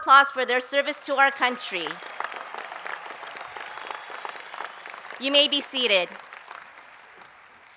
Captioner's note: applause